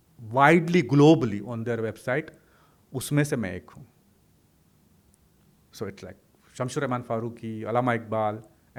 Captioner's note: hindi